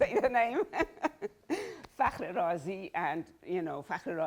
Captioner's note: laughs